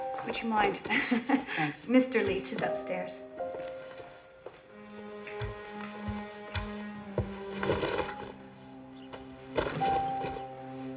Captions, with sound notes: would you mind? (laughing) Thanks. - Mr. Leach is upstairs. (bag rustling)